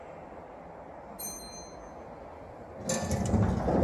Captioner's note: chime